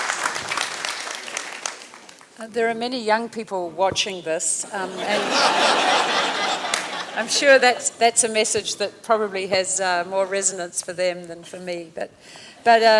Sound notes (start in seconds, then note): 0.0 laughter/Applause; 4.7 laughter; 12.0 laughter